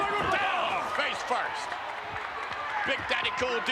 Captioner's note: spectators cheering